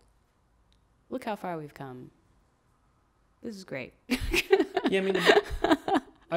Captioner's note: laughs